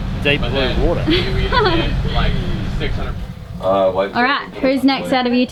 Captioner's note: laughing